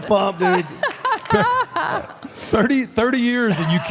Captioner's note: Michelle laughs